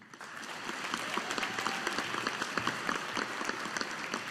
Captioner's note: audience applauding